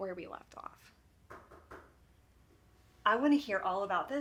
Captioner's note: fist knocking